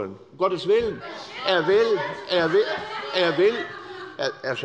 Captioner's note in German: Zurufe der Abg